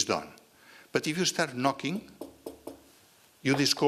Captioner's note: knocking noise